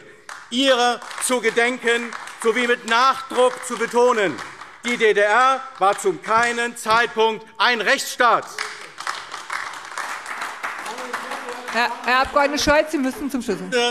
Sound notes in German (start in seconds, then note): 8.3 Beifall AfD